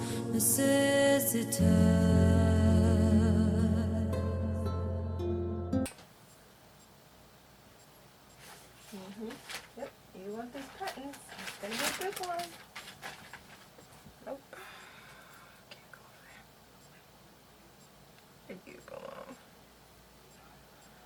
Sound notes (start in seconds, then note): 14.5 sighs